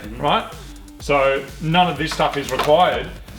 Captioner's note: wires rattle